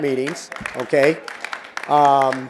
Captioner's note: applause